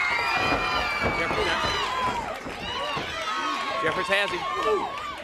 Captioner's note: crowd cheering